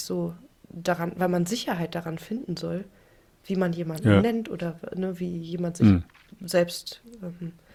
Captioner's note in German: räuspern